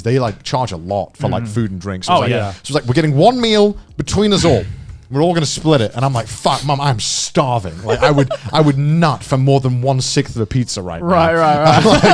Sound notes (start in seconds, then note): 7.8 chuckling; 11.5 both chuckling